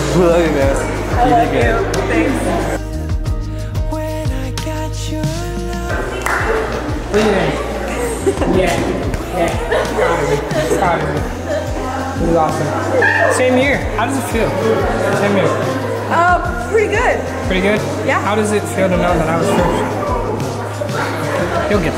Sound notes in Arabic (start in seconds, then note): 9.4 تضحك